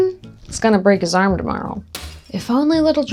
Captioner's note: glass breaking